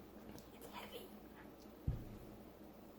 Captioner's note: whispered